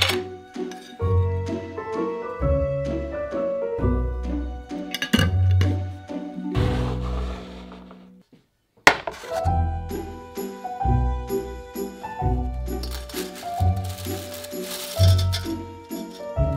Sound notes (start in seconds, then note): 9.1 metal clanking; 12.8 noodles hitting pan